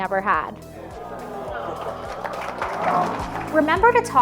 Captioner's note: guests clapping